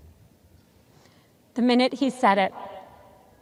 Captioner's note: none